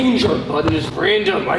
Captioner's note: door closes